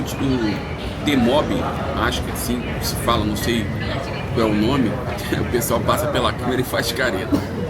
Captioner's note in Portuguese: limpando a garganta